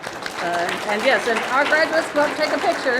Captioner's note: audience clapping